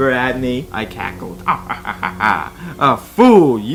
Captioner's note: cackling